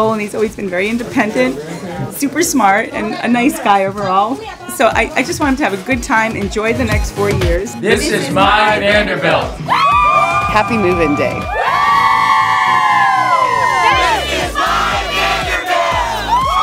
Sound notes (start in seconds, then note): 14.8 cheers